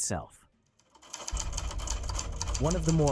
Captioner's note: typewriters clicking